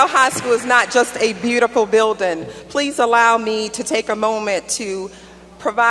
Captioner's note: applause